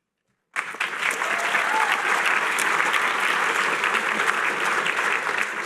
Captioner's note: applause